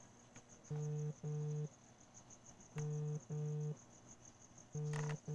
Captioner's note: phone rings